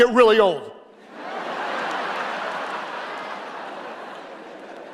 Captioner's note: audience laughing